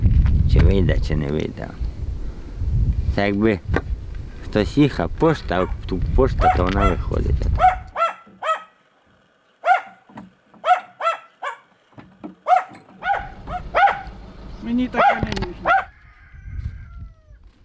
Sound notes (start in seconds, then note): 8.6 A dog is barking